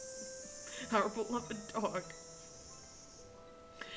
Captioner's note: still laughing